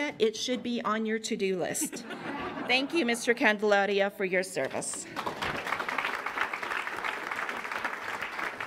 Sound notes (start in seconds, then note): 1.7 laughter; 4.9 applause